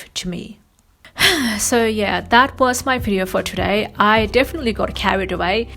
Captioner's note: sighs